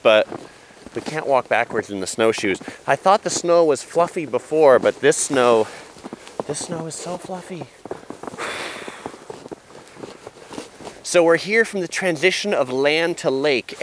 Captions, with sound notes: but we can't walk backwards in the snow shoes. I thought the snow was fluffy before but this snow is so fluffy. (blows) So we're here from the transition of land to lake